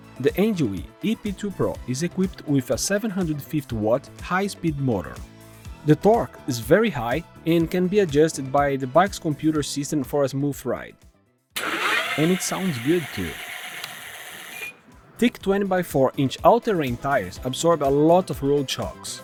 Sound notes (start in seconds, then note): 11.5 motor's sound